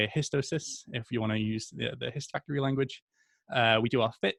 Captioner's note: speaks faintly